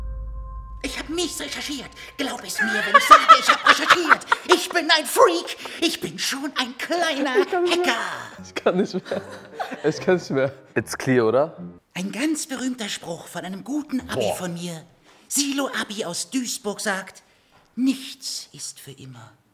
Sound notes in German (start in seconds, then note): 8.5 lacht